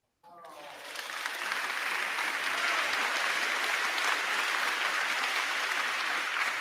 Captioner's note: crowd clapping; crowd cheering